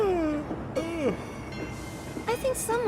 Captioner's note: yawn